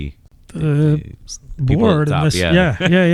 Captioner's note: uh